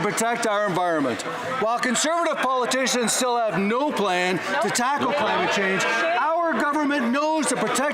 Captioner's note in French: voix de l'interprète